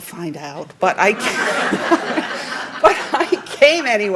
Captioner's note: laughing